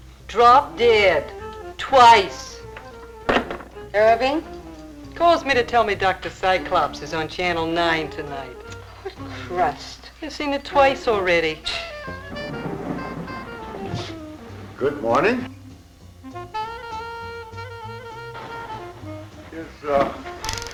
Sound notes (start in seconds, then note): 12.6 scoffing; 16.4 jazzy music